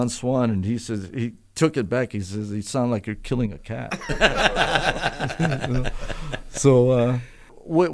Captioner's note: laughter